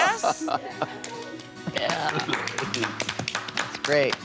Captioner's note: applause